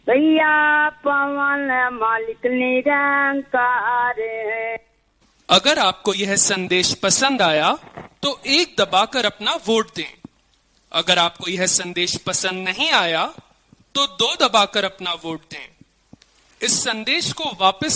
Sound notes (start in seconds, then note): 5.8 automated Voice; 5.8 speaking in foreign language